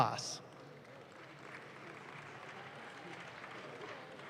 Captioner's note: audience claps